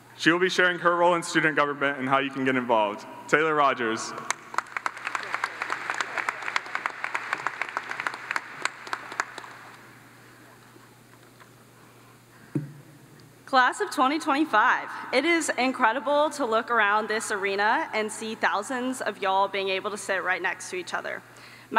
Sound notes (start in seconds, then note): 4.2 audience applauds